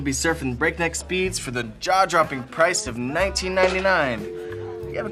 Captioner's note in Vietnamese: tiếng quay số